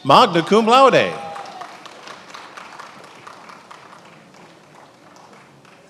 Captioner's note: attendees applauding